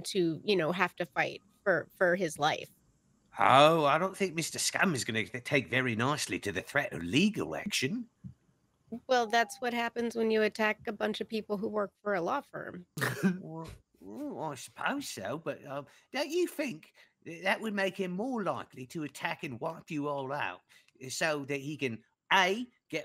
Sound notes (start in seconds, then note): 12.2 laughing